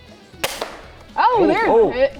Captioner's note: airgun firing